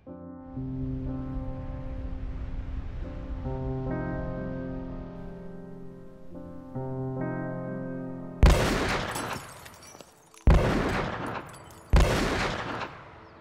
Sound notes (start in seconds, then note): 0.3 somber music; 8.5 gun firing